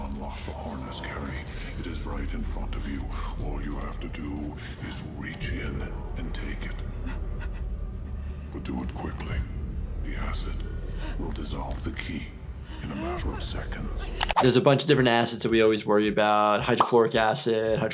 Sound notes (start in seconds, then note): 6.8 person crying